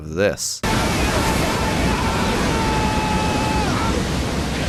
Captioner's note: screams